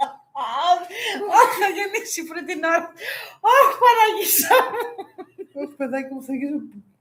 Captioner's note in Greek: γέλια